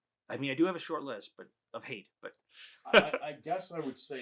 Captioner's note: laughs